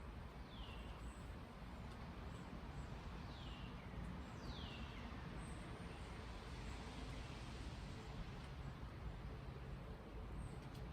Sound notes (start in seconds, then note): 0.0 rain sounding; 0.4 birds chirping